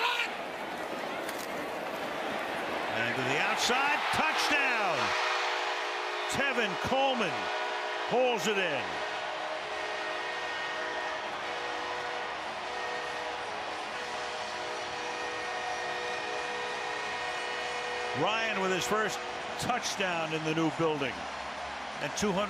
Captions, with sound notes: And to the outside, touchdown. Tevin Coleman pulls it in. [cheering] Ryan with his first touchdown in the new building.